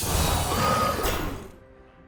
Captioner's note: dragon snarls